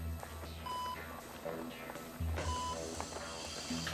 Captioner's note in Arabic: صفير